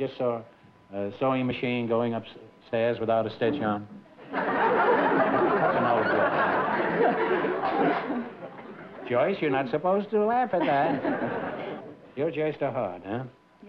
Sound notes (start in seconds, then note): 4.2 laughter; 10.5 laughter